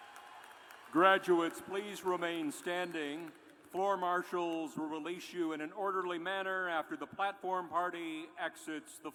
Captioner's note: cheers and applause